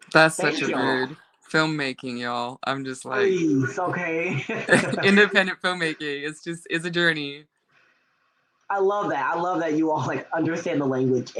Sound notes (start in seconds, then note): 3.8 all laughing